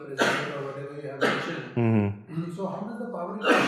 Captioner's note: coughing